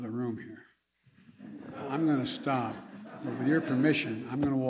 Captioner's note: laughter